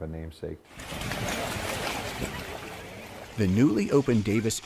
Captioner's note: splashing